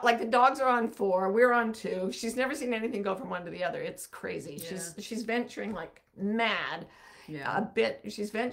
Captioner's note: none